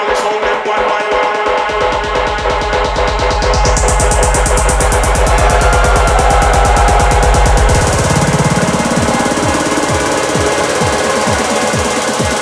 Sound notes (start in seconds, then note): 6.8 crowd cheering; 9.7 techno music